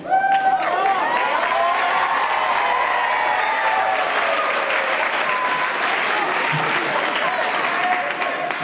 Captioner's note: applause